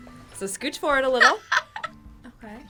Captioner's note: laughs